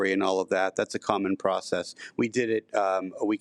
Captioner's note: none